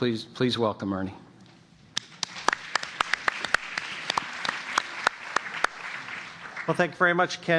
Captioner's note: applause